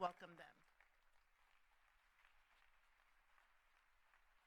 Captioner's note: applause